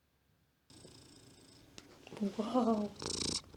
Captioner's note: purring